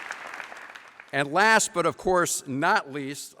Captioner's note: applause